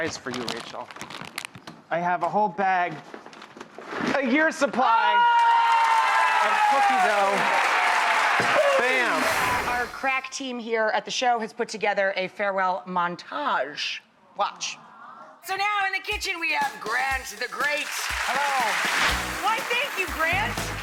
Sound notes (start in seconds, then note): 4.9 audience cheering